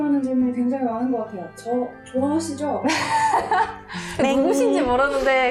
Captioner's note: laughing